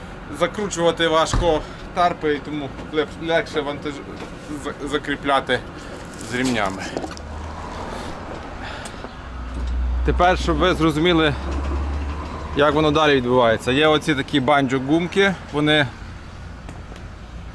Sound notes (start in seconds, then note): 7.3 whoosh